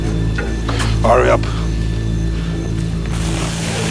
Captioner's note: dramatic music; grunting